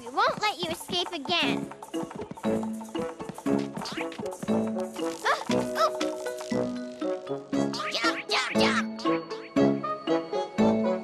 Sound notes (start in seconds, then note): 1.6 beans shudder and shake; 4.9 struggles